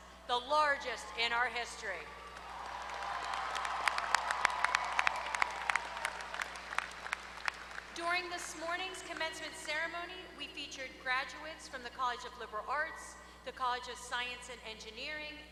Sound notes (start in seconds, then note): 2.2 applause